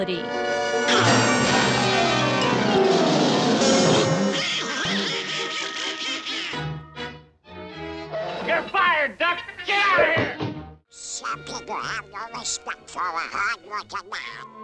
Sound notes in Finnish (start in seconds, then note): 3.9 naurua